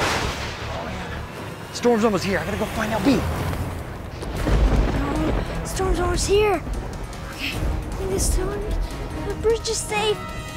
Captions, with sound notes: (thunder cracking) Oh man. Storm's almost here, I gotta go find LB. (thunder cracking) - Oh no, storm's almost here. Okay. Please tell me, the bridge is safe.